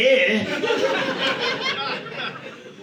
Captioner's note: audience laughing